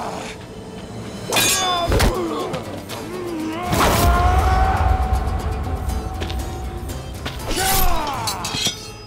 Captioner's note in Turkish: Dövüş sesleri